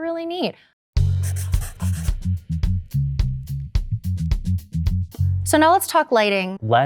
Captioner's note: upbeat music; pencil scribbling